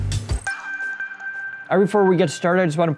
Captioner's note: beeping